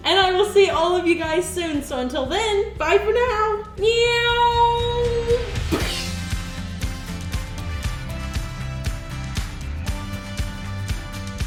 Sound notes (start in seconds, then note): 5.7 splat; 6.7 upbeat music